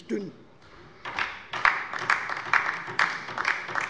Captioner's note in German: Beifall bei der LINKEN